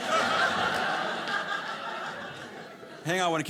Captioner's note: audience laughing